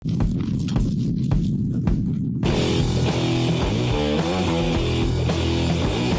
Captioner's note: upbeat rock music; wind blowing